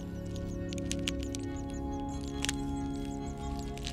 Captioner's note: egg crackles